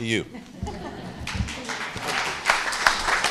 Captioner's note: applause